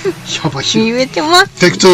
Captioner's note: laughs